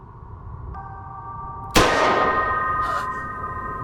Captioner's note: gunshot fires